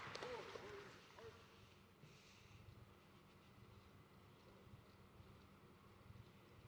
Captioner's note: applause